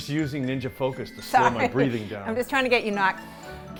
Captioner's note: laughing